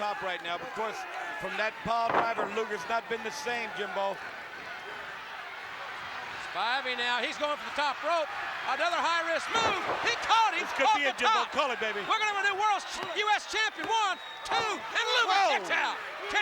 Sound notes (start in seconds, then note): 5.8 applause